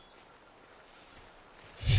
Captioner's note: air whooshes